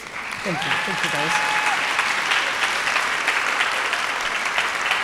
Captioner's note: audience applauding